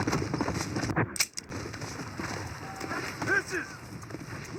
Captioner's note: sounds of a galloping horse and home page; sounds of a horse